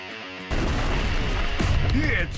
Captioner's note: explosion